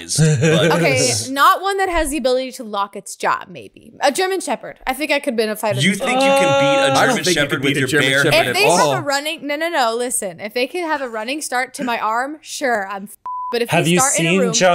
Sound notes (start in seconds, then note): 13.2 beep